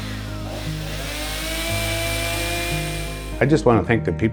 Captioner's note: buzzing of the saw